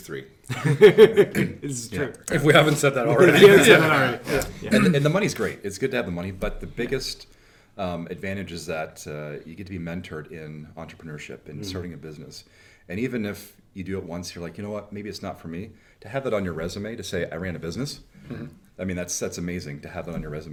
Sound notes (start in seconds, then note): 2.3 men laughing; 4.9 laughing